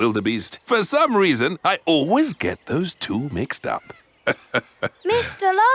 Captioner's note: laughs